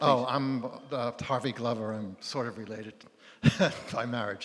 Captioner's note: chuckles